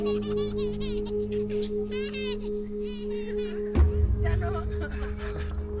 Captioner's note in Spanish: Risas